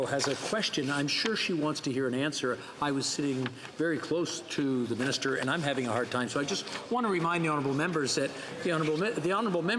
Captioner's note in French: voix de l'interprète